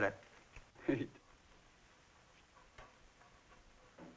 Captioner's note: chuckles